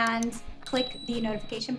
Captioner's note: bell dings